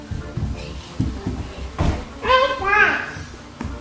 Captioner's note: yelling